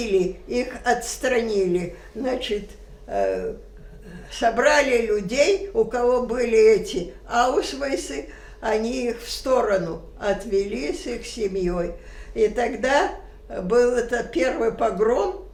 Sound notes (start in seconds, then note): 6.3 german